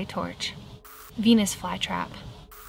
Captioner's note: static crackles